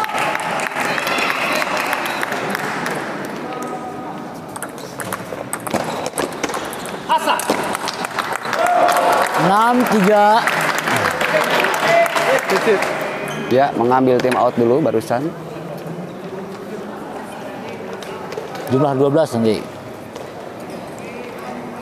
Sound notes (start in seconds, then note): 0.0 applause; 7.7 applause